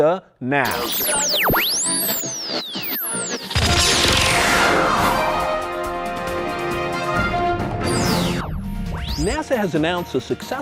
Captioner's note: sound Effects